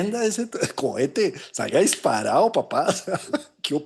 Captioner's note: laughs